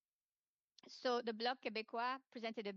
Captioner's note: speaking French